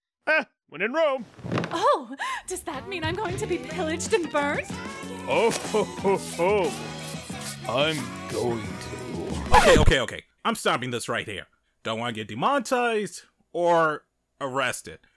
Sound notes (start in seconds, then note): 2.2 gasp